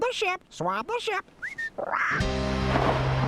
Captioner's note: whistles; thunder